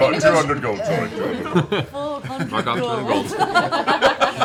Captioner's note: chuckling